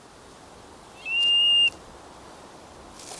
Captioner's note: curlew calls